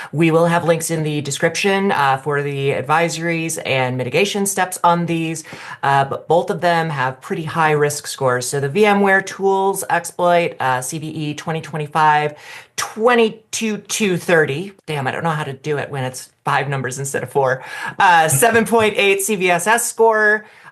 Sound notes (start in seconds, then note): 18.3 laughs